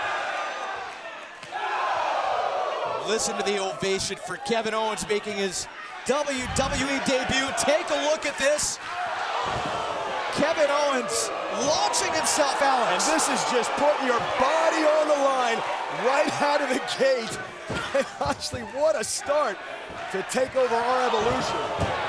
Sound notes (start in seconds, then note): 1.5 crowd groaning